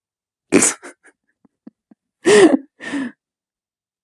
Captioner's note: laughs